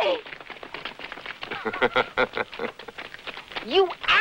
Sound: laughter

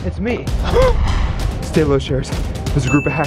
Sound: gasps

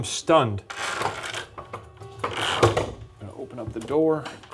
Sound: object rattles

